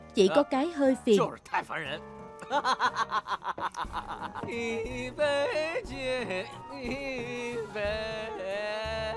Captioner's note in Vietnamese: Tiếng cười